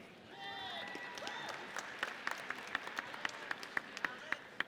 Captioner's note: audience cheers